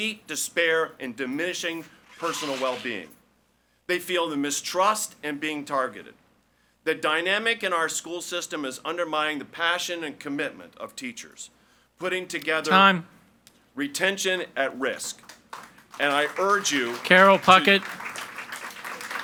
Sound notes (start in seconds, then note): 15.2 audience applauds